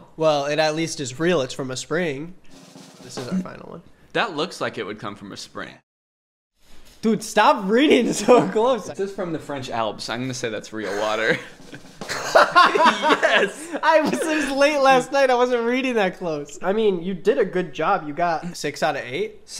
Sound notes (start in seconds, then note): 2.5 soft drum roll; 11.0 soft drum roll; 12.9 both laugh out loud